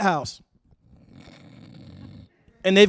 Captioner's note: snoring